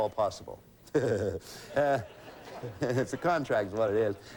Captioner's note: audience laughing